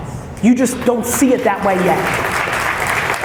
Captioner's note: applause